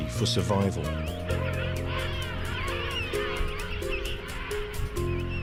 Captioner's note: penguins squawking